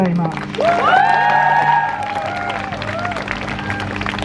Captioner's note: crowd Cheers